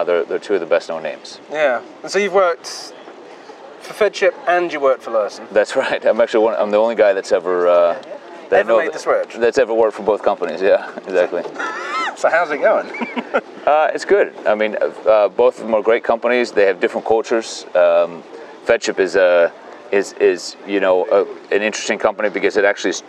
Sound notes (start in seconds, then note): 11.3 laughs